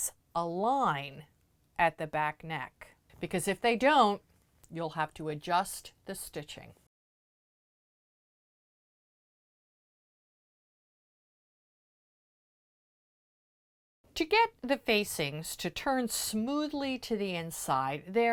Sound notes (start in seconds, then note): 6.8 no Sound Present